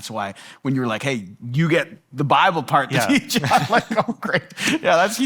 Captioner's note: laughs